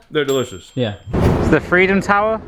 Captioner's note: ding